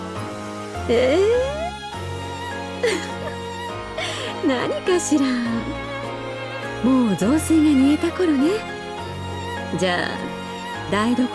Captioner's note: giggle